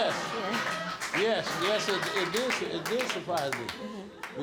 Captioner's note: stammering